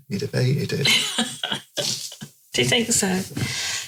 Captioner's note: laughing